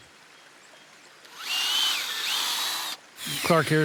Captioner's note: drill buzzes